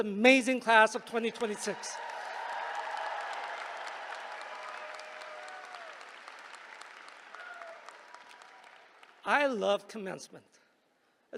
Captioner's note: applause